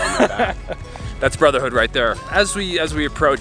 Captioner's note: laughs